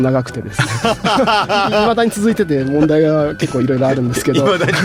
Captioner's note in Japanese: 笑い